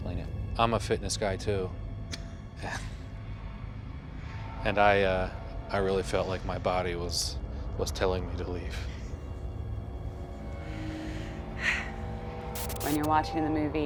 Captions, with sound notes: - I'm a fitness guy too. [both chuckle sarcastically] And I--I really felt like my body was telling me to leave. - [laughs] - [sighs] - When you're watching the movie,